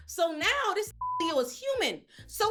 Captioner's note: beep